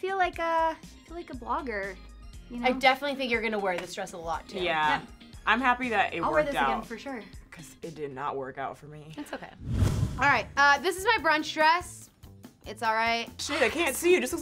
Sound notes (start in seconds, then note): 9.6 whoosh